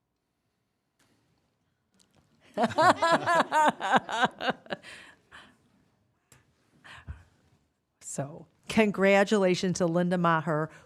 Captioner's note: laughter